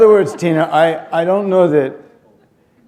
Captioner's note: laughter